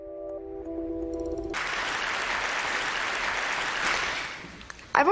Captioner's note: applause